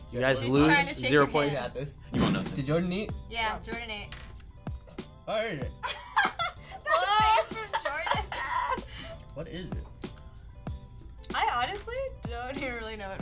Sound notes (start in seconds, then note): 5.8 laughs